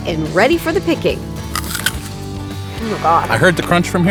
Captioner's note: apple crunching